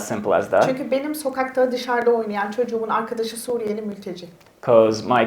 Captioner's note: speaks in Turkish